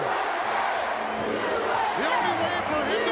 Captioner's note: crowd chants "USA"